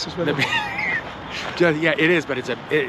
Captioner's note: Paul laughs